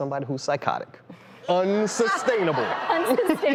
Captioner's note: laughter